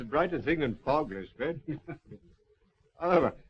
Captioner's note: laughing